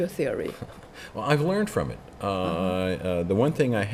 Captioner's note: laughs